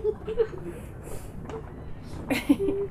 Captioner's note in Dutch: zacht gelach